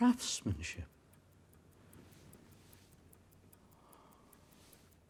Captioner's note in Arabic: ساعة دقات الساعة